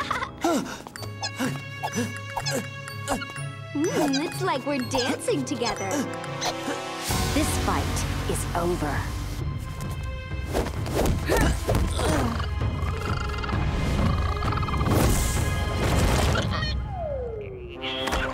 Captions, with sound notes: [gasping] Ooh, looks like we're dancing together. This fight is over. [grunting] [chittering]